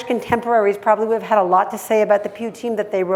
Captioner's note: hebrew